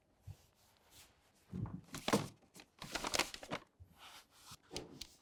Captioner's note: paper rustling